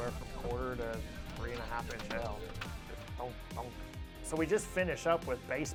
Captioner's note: imitates hail hitting truck